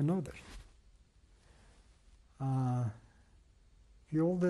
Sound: pauses for 3 seconds

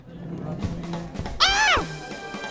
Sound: shrieks

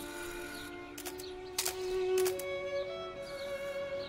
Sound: shutter sounds

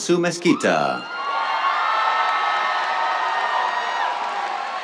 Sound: cheers, applause

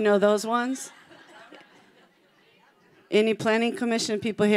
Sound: congregation laughing

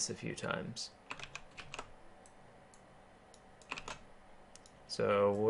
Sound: keyboarding

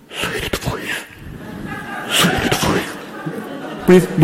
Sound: audience members laughing

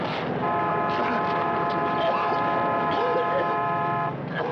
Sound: Sam and Roy coughing; fire crackling intensifying; car horn honking

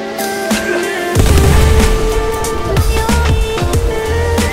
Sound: massive explosion

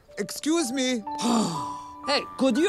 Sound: sigh

